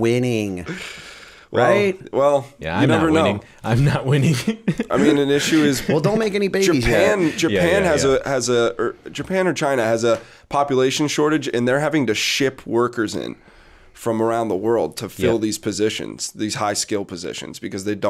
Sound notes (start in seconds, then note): 4.7 chuckle